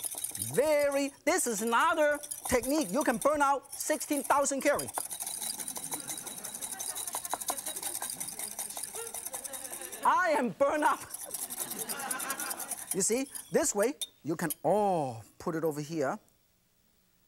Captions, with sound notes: very, this is another technique you can burn out 16 thousand calorie (whisks intensely) (audience chuckles) I am burn up! You see this way you can ah put it over here